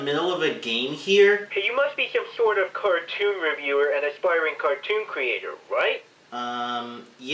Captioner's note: from phone